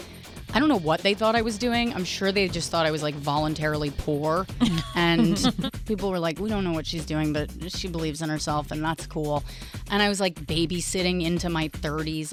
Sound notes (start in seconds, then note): 4.6 laugh